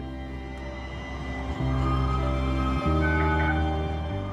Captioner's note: trolley klaxon